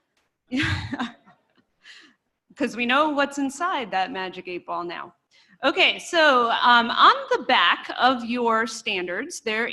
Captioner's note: laughter